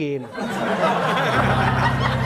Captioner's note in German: Lachen